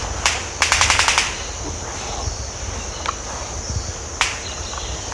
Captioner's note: bill clacking and bugs chirping